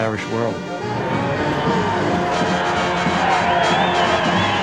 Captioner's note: cheering